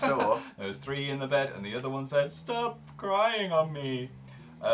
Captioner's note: laughs; singing; depressed voice